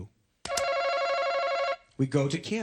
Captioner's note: buzzer